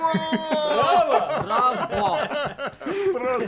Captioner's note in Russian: смех